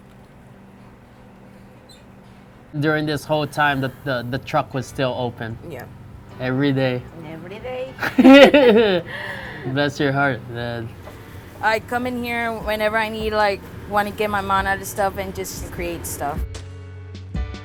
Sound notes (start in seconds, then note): 8.0 laughter